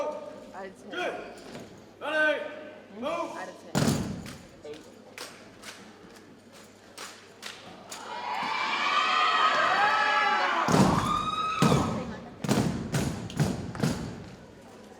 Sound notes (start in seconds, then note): 3.8 cadets thump rhythmically; 8.0 audience cheers and applauds; 11.6 cadets thump rhythmically